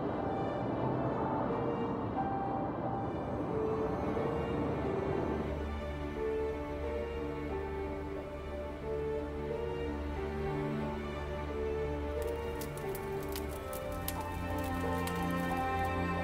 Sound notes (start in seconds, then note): 12.7 fire crackling